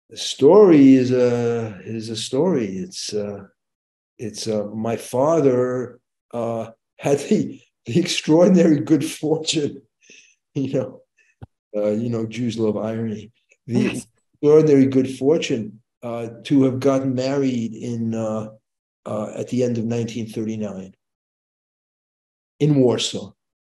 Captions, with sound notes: - The story is a story. My father (chuckles) had the extraordinary good fortune, you know, Jews love irony, the extraordinary good fortune to have gotten married at the end of 1939 in Warsaw.